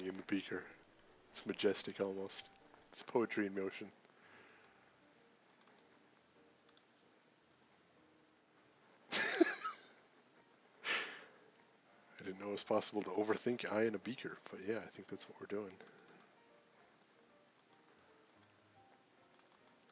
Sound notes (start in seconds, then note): 4.3 laughs